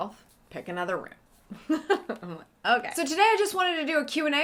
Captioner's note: laughing